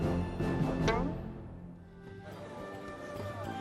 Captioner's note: bloop